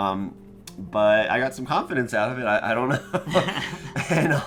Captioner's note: laughs